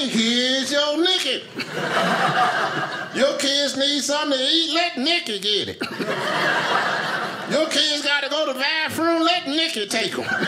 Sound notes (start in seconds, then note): 1.4 audience laughing; 5.8 audience laughing